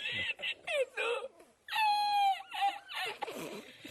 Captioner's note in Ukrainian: сміх